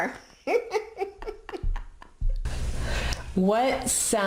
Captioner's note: laughs